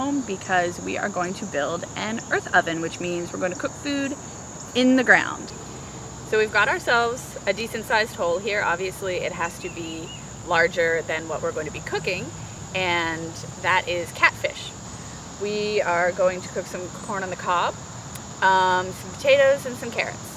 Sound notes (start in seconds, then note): none